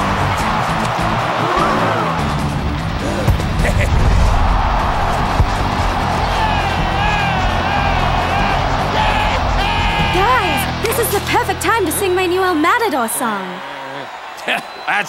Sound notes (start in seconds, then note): 1.0 crowd gasps; 5.3 crowd cheers; 13.8 scoffs